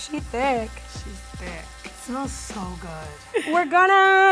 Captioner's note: quietly